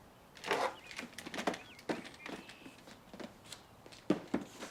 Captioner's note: boxes clattering